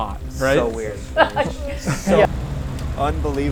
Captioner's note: laughs